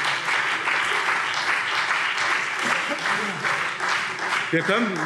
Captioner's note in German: Beifall BÜNDNIS 90/DIE GRÜNEN und CDU